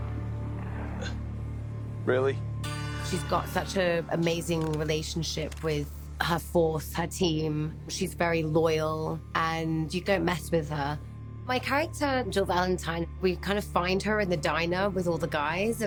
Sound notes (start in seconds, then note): 0.5 Albert sighs